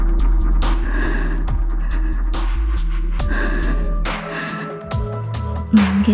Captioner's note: gasp